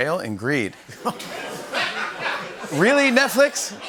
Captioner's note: laughter